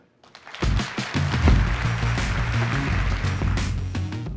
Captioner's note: applause